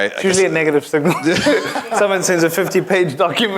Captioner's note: laugh